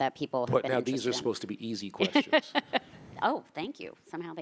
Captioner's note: laughing